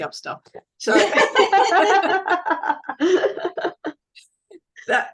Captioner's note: everyone is laughing